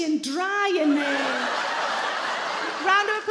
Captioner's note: audience laugh